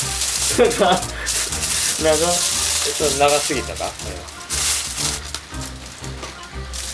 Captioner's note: laughs